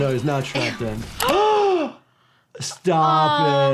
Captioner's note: both gasping